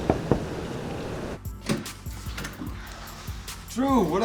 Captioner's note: knocking on door; door rattling